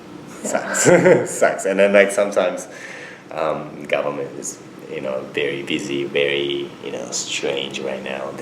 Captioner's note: laughs